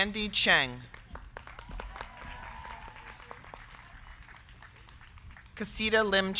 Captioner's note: crowd clapping; crowd cheering